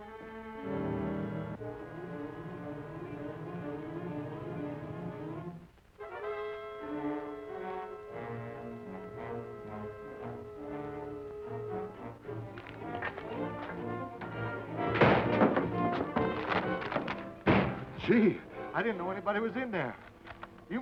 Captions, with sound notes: (door clanking) Gee, I didn't know anybody was in there.